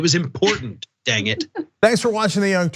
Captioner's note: laugh